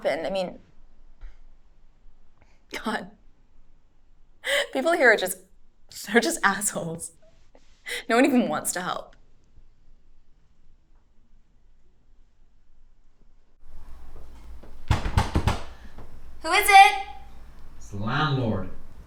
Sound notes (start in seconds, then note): 14.6 door knocking